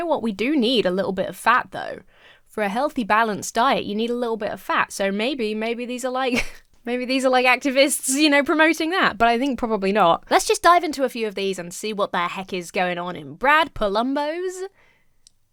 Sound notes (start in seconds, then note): 6.3 chuckles